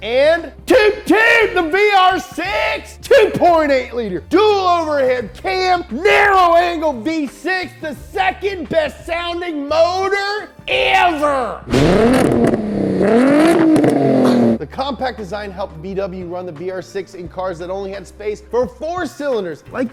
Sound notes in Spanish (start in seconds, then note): 2.7 imita cuerno; 11.7 Motor Revolucionado